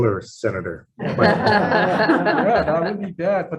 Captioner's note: all laughing